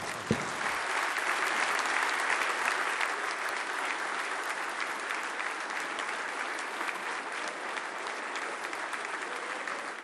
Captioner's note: applause